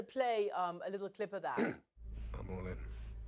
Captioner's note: clearing throat